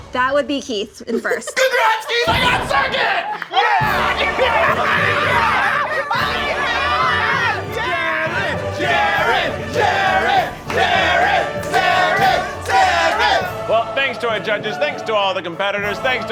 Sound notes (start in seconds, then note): 4.9 all cheering; 4.9 all laughing